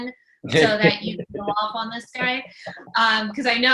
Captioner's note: laughs